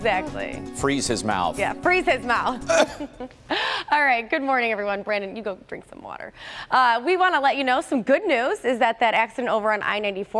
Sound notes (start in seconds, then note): 2.6 coughing